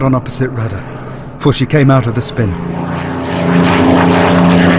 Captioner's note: spitfire engine roars